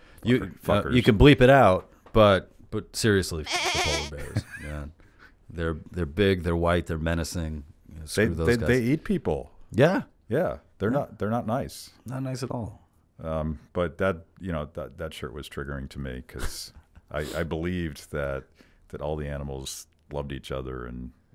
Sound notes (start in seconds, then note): 3.5 laughs